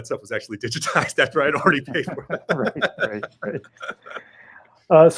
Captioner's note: laughs